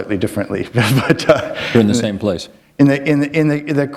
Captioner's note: chuckle